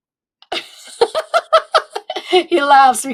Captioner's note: laughs